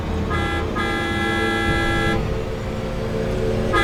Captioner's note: horn honking